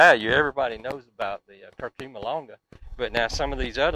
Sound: speaks faintly

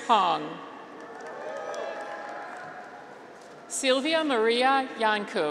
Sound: graduates cheer

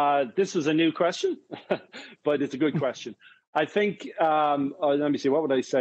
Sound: chuckles

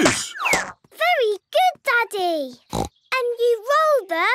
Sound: snorts

